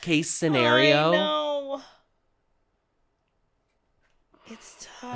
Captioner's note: despairing